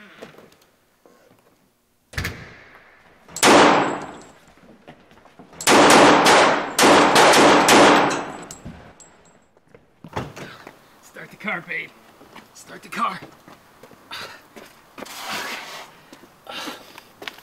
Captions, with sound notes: (gunshot) (gunshots) - Start the car babe, start the car.